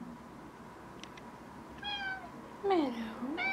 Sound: cat meows

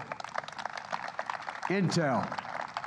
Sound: applause

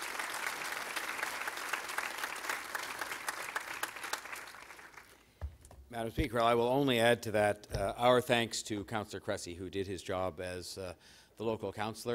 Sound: applause

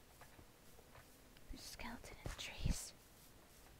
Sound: whisper

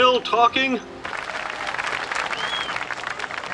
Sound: applause

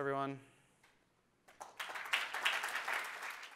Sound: audience applauding

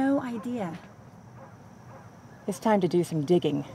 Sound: dog barking

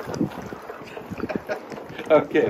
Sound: laughs

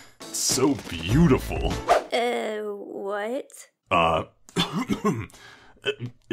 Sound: clears throat

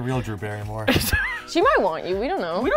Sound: laughs

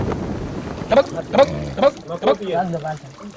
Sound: foreign spoken audio

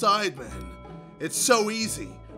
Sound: bell gonging

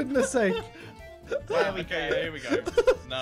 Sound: laughing

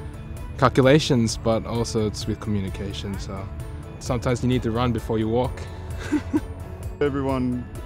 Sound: laughs

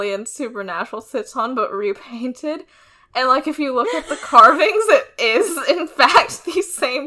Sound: laughs

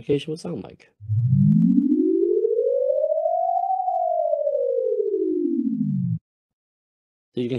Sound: sonification plays

